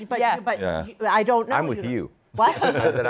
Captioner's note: laughter